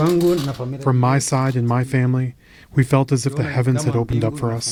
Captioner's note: through translator